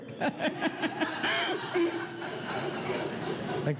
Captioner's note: laughing